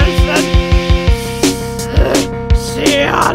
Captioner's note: hrrgh; inhale